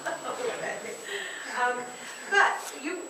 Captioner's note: laughter